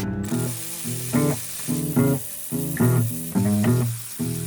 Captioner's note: drill whirring